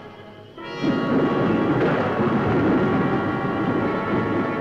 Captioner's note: thunder roaring